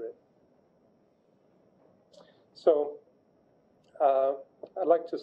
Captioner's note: pause